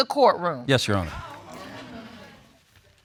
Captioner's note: audience murmuring